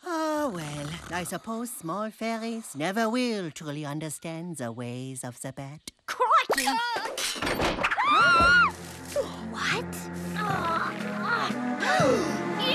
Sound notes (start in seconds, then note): 7.9 screaming; 8.2 yelling; 11.8 gasping